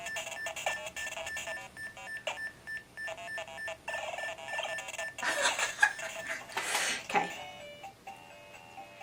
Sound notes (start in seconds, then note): 0.0 beepy music; 5.2 laughs at shocking beep music